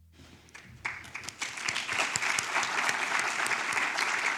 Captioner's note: audience applauds